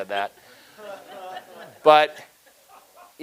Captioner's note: audience laughing